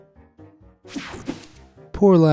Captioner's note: screen whooshing